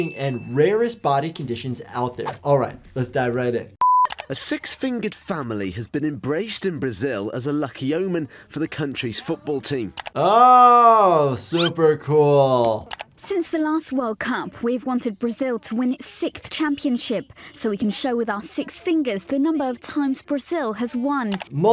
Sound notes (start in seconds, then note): 3.7 mouse clicking; 3.8 tone beeps; 11.6 glasses whistling